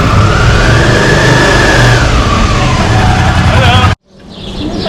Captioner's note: motorbike engine